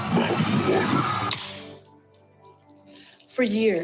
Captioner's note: can of water sizzles